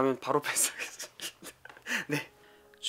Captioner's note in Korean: 헤헤